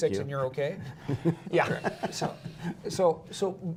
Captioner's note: laughter